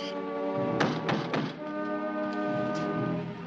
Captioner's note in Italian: bussano alla porta